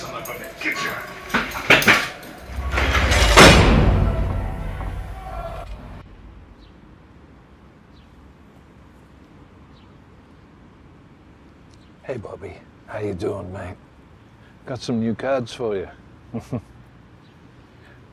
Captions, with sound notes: All right, you son of a bitch, get your... (body clatters) (door clanks) (birds chirping) - Hey Bobby, how you doin' man? Got some new cards for ya. (chuckles)